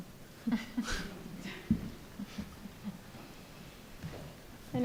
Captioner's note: panel laughs